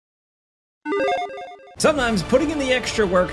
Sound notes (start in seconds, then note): 0.9 buttons beep